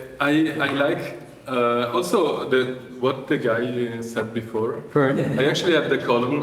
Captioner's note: laughter